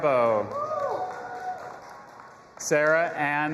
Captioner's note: audience applauding and cheering